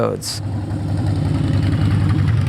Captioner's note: motorcycle sound